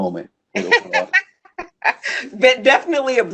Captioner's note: laughs